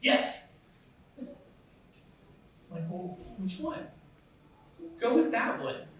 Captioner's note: laughs